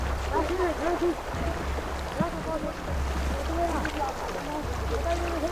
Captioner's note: speaking foreign language